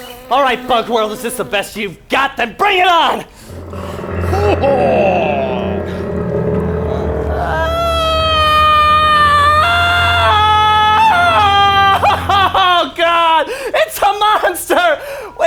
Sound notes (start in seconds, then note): 3.8 creaking and groaning; 7.5 Junior screaming